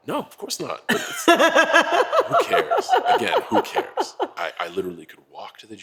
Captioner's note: laugh